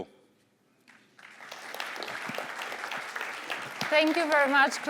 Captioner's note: applause